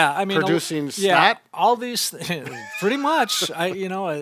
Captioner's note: laughs